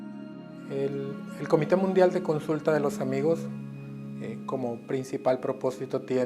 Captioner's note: speaking in foreign language